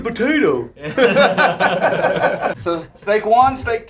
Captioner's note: group laughter